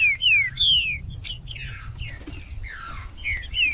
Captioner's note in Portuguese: trinca ferro cantando